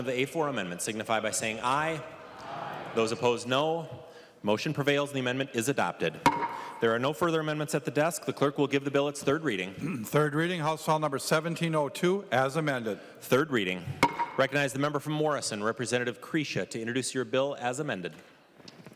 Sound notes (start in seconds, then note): 8.5 chorus of ayes; 13.9 gavel